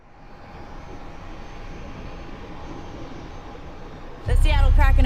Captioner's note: plane engine humming